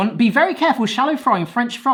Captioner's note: none